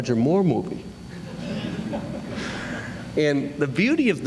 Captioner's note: laughter